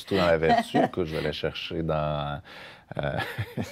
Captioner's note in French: rires